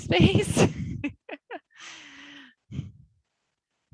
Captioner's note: laughs